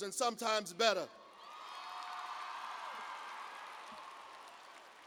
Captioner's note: cheers and applause